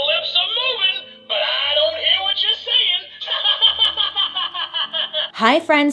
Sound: laughs

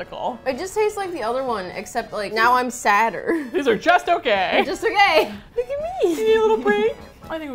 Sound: squeaky voice; cooing

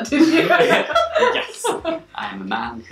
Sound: laughing

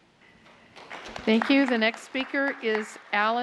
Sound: applause

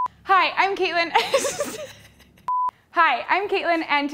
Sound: beep; laughs

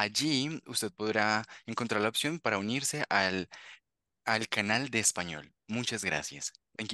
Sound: interpreter continues speaking Spanish

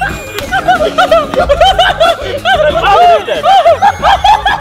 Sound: laughing

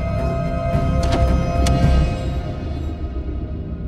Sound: door latch clicking; rhythmic, dramatic music

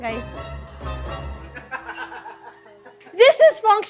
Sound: laughs

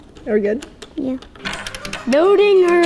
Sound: plastic clatters

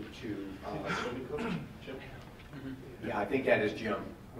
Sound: man murmurs off microphone

